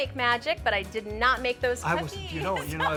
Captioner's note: laughs